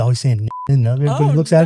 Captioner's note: beep